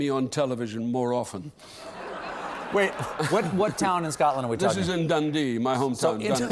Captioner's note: laughter